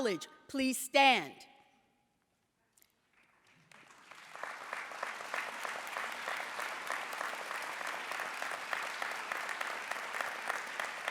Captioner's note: applause